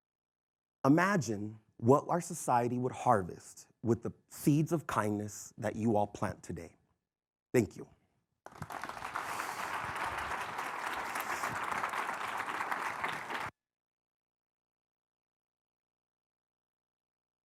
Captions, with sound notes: Imagine what our society would harvest with the seeds of kindness that you all plant today. Thank you. (audience applauding)